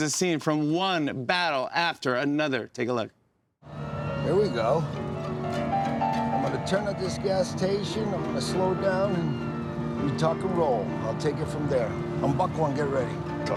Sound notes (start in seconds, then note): 5.2 siren wails